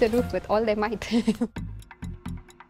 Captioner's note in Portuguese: risos